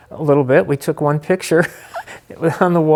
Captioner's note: laughing